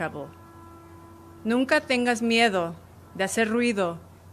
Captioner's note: speaking spanish